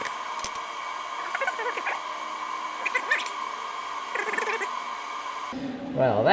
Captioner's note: concerned noises